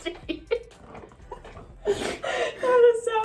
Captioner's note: both laugh